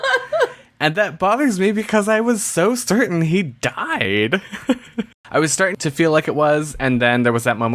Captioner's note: laughs